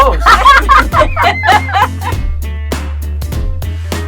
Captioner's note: laughing; upbeat music